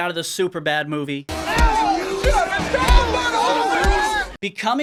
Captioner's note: scared yelling; loud punching